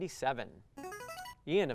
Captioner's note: buzzer